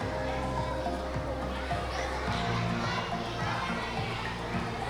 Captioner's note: audience chattering continues